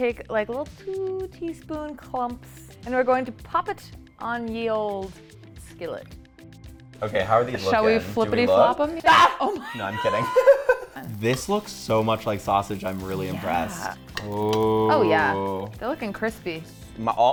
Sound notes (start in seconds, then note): 9.0 yells